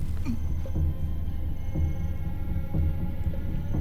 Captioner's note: gags